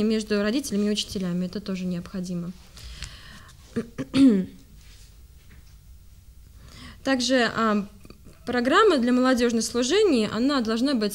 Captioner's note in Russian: откашливается